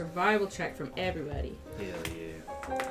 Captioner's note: quietly; the sweet sounds of dice clacking amongst a wooden dice tray and tabletop